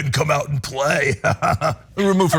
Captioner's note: laugh